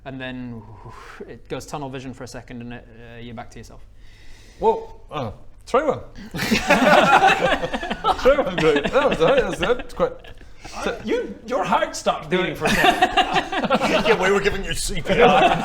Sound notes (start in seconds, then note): 6.7 laughs